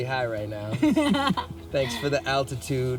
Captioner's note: laughs